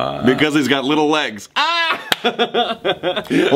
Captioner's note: laughs